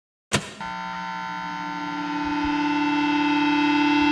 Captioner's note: radio buzzing